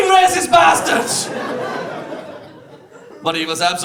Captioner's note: audience laughs